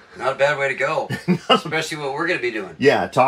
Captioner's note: laughs happily